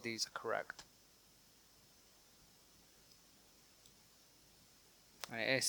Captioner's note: silence